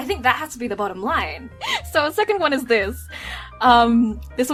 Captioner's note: inhale